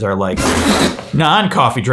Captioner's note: spitting